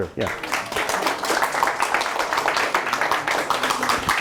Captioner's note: students applaud